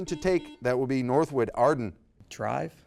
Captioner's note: buzzer beeps